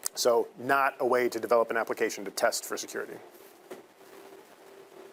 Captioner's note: none